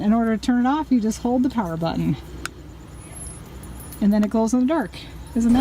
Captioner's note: click